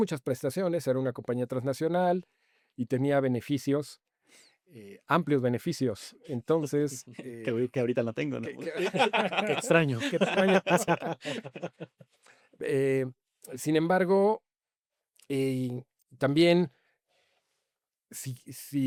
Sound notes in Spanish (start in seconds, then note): 8.4 risas